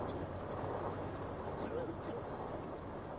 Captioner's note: coughing